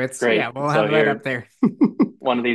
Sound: chuckles

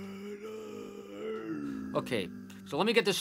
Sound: moaning

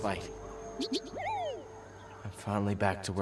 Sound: enthusiastic woop

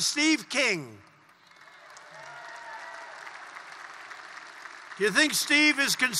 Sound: applause

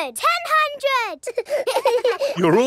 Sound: children laughing

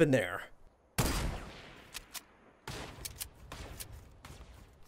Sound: guns banging

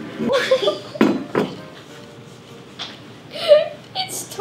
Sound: giggles

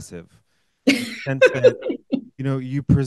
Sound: laughing

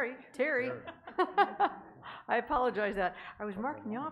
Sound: laughing

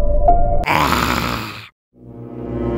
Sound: zombie scream

